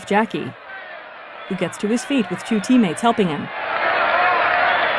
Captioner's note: crowd cheering